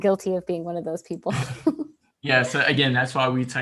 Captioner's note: laughs